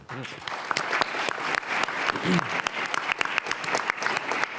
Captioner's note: audience applauding